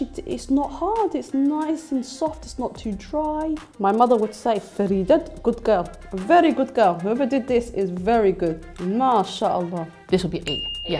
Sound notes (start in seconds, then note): 4.5 speaking foreign language